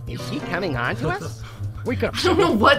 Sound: laughs

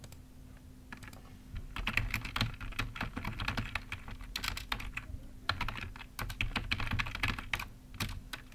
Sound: typing

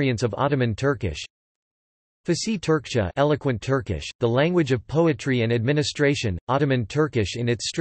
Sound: eloquent Turkish

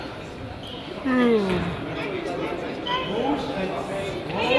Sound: man yawns

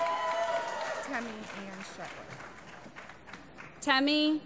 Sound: applause

